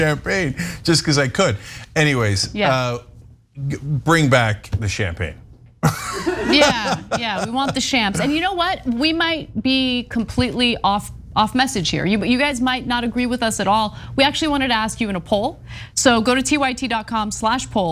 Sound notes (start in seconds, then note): 5.8 laugh